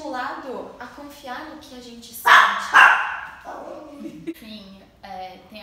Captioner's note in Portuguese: latidos e rosnado